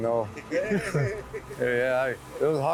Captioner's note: brothers laughing